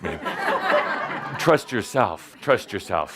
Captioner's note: laughter